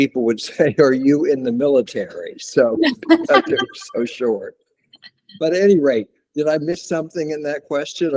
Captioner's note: laughter